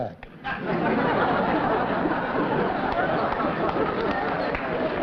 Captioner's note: laughter